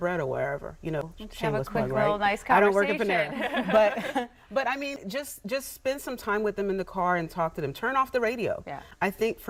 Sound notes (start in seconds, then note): 3.3 laughter